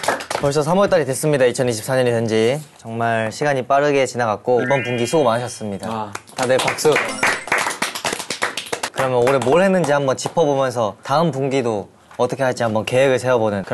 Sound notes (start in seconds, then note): 6.2 A round of applause for everyone